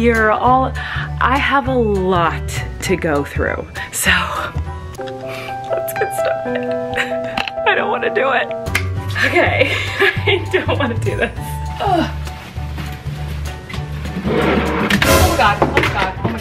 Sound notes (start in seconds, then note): 4.1 sad music; 8.6 clapping; 9.2 laughing; 11.6 rustling; 11.7 groaning; 14.0 thudding; 14.3 booming